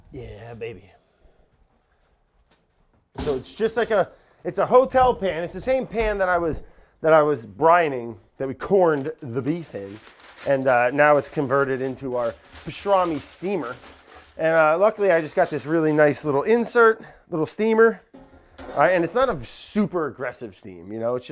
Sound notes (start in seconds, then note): 9.7 foil crinkling; 18.1 pan clanks